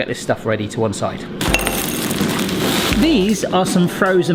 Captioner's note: peas clinking